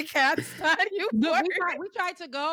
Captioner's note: laughing